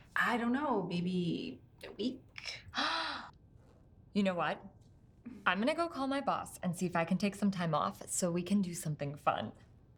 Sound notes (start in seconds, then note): 3.0 gasps